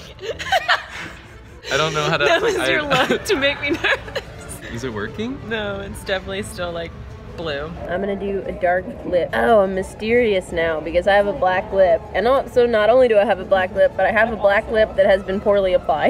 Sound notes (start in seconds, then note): 1.6 laughs